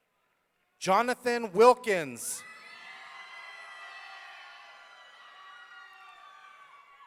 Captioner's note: audience cheering